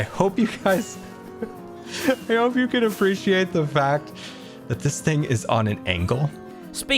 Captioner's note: laughs